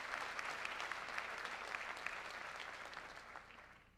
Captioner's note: applause